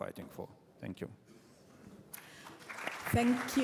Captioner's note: applause